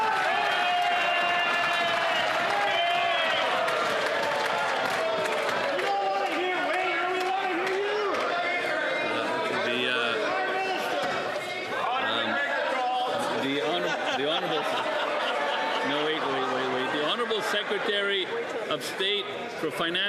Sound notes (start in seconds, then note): 2.7 some Applause